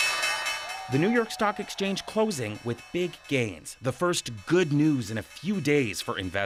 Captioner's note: bell ringing